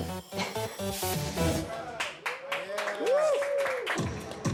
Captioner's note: cheers and applause